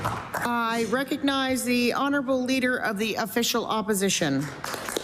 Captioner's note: applause